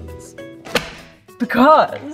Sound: book slapping

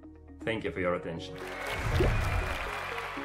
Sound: applause

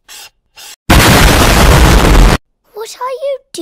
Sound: very necessary explosion

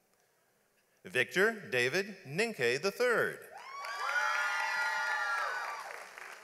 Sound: audience applauds

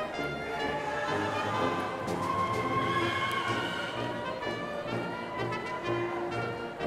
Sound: upbeat music; indistinct chatters

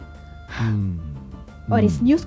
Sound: sighs

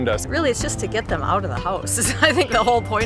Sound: laughter

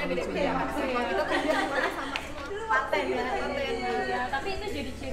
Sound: indistinct chatter

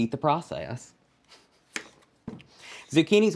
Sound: chopping

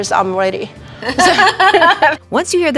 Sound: both laughing

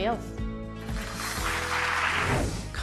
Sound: applauding

